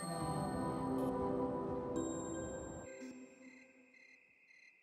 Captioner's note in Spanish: grillos chirriando